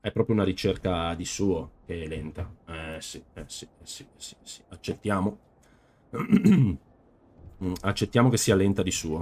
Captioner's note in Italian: schiarire la voce